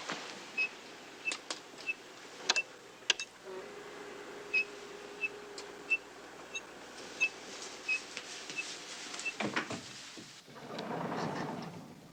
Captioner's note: squeaking